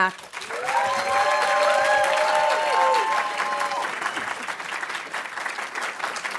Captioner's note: audience cheering and applauding